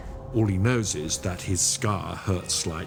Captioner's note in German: none